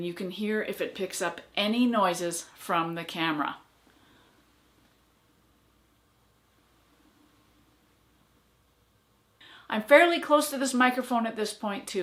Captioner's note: silence